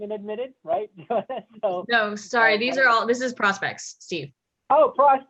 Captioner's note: laugh